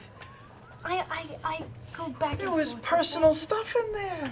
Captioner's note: none